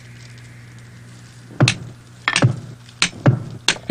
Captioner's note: pounding